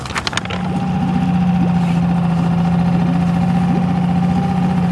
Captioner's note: boat whirring